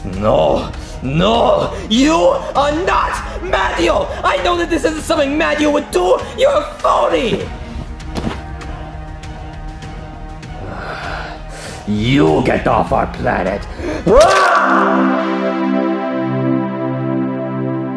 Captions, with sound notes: No, no. You are not Mario. I know that this isn't something Mario would do! You're a phony! (dramatic music) You get off our planet. (yells) (soft music)